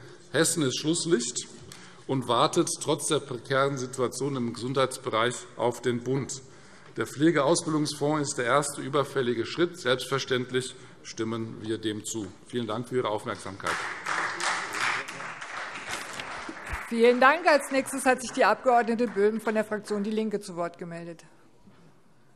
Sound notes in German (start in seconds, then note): 13.2 Beifall Freie Demokraten